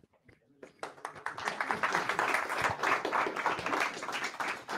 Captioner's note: audience applauding